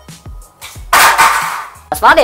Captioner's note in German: krach